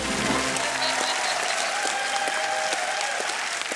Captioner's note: cheering and applause